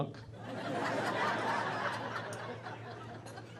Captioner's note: laughing